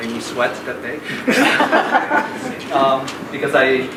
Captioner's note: laughing